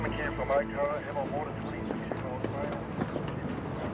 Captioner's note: faintly speaking